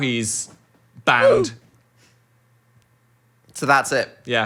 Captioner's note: soundboard exclaims